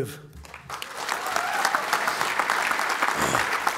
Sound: applause

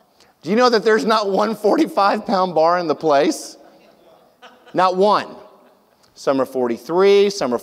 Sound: audience laughs

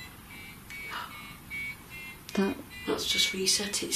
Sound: loud beeping

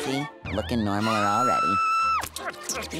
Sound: screaming

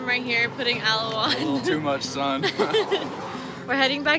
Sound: laughing

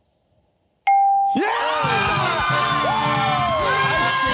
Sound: cheering

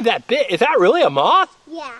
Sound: voiceover

